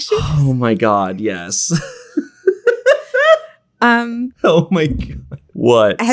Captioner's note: laughs